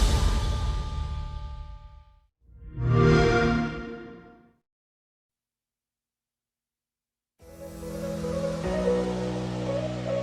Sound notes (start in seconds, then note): 4.0 xbox sound